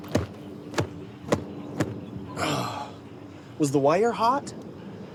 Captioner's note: groaning; shirt flapping